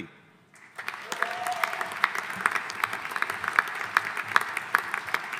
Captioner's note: audience applauding